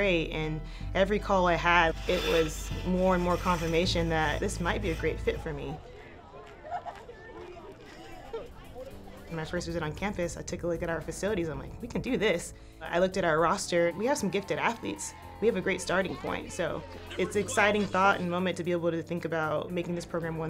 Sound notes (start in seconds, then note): 6.6 women chattering